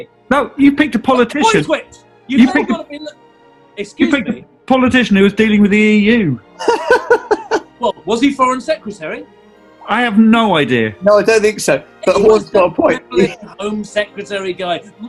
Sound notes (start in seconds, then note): 6.6 giggling